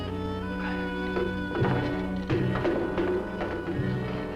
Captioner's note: clattering